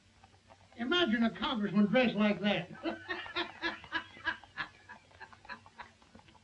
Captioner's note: laughs